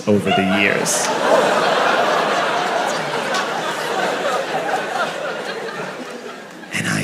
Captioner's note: crowd laughs in surprise